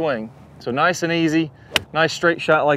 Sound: golf club clacks

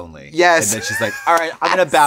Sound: laughing

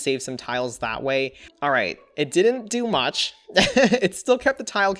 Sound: laughs

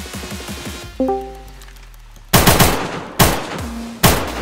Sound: Squadmate joins back Discord

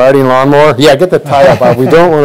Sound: laughing

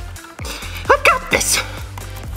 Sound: keyboard clicking

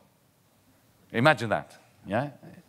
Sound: none

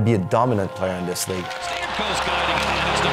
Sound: calling play

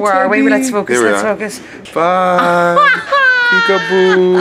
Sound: laughing

